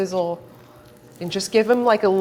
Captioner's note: sizzling